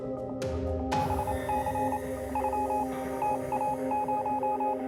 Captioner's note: electronic beeping